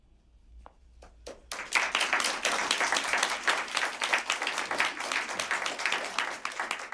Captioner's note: applause